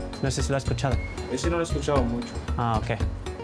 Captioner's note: speaking in Spanish; neighbor speaking in Spanish